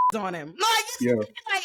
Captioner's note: beep